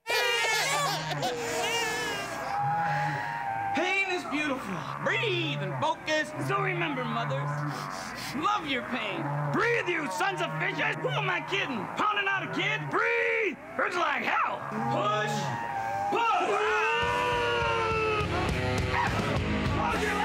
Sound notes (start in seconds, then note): 0.0 baby crying; 2.7 breathing; 16.7 moans